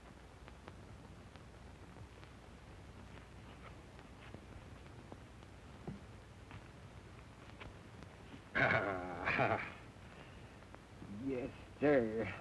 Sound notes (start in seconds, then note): 8.8 chuckling